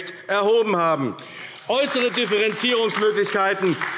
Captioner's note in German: Beifall AfD